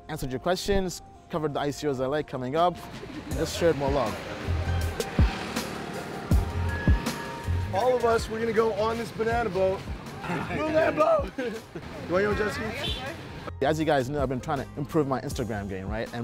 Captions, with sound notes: Answered your questions, covered the ICOs I like coming up, just shared more love. (slow rap music) All of us we're gonna go on this banana boat, Moon Lambo! (laughs) You want your own jet-ski? As you guys know I've been trying to improve my Instagram game,